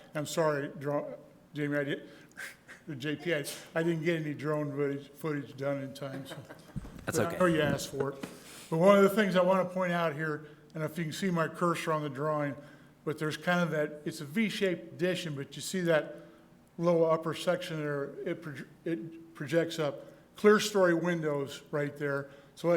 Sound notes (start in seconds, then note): 6.1 soft laughter